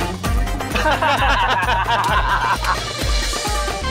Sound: laughing

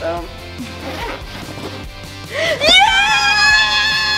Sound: zipper zips

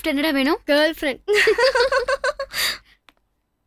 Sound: laughs

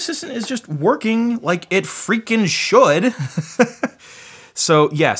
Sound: laughs

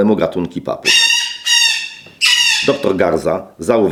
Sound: parrot sounds

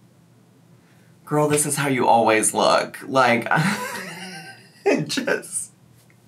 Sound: laughing

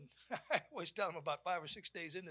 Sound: chuckles

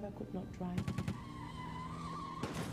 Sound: gun shots; tires squealing

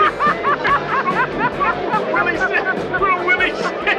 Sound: laughing

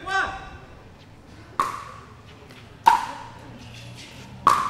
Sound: ball bouncing

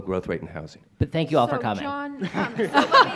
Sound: laughs

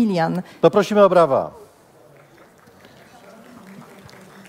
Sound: applause

